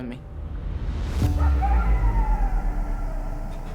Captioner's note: coyotes howl